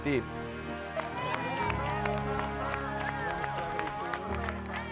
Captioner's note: applause